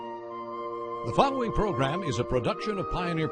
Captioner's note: peaceful music; voiceover